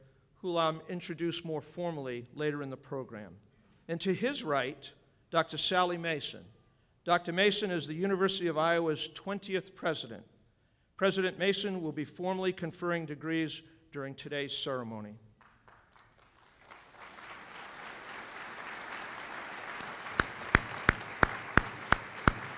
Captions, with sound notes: who I will introduce more formally later in the program. And to his right, Dr. Sally Mason. Dr. Mason is the University of Iowa's 20th president. President Mason will be formally conferring degrees during today's ceremony. (applause)